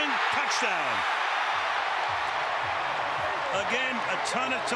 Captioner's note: cheering